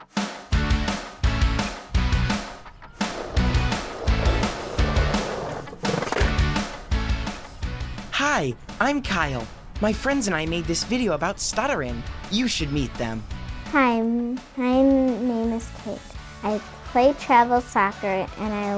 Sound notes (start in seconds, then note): 2.9 skateboard scrapes